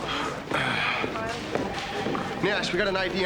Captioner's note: clears throat